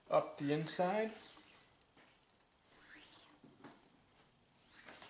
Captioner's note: cord hisses